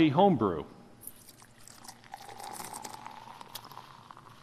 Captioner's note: liquid pouring